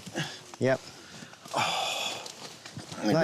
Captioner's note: exhales